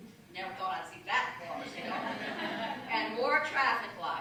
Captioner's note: laughter